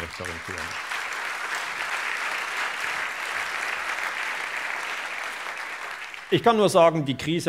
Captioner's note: applause